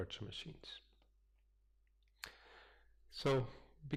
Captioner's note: pause